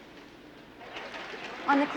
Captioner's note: chatter